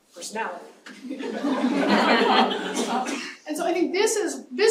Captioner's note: laughter